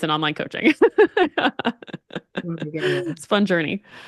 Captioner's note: laughs